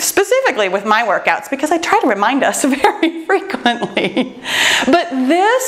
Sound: chuckles

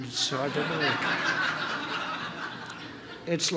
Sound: laughter

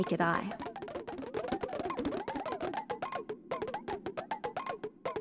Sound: popping electronic sounds

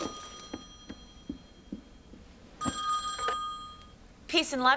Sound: <i>phone rings

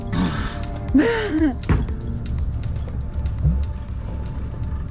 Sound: laughs

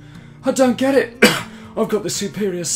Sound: cough

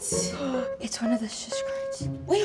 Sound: gasps

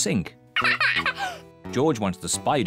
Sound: laughs

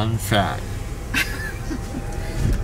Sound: laughing

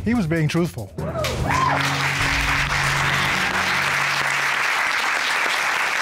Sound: cheers and applause

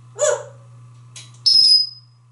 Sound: tweet

